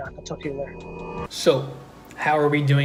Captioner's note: air whooshing